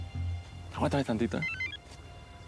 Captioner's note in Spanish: suena el celular